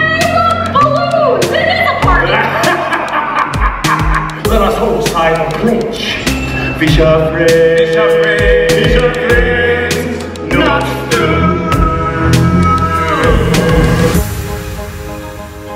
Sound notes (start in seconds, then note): 2.2 chuckles